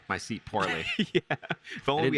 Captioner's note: laughs